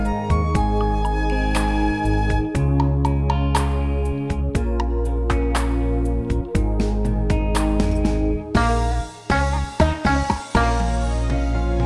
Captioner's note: clap